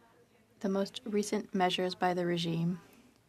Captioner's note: speaking French